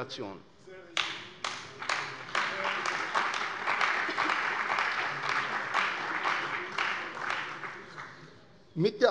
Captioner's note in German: Beifall bei der CDU und dem BÜNDNIS 90/DIE GRÜNEN